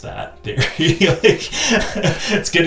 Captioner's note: laughing